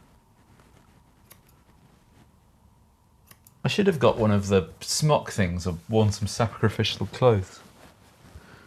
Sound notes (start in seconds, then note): 0.8 scissors snipping